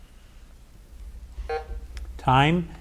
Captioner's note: button buzzing